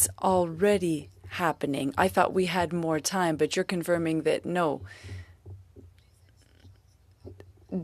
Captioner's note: speaking French